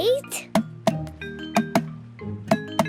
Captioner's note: tapping